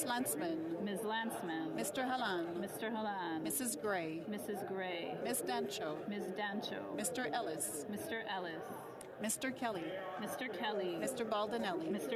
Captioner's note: calling of recorded vote